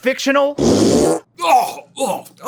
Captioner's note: faaaaaaaaaaart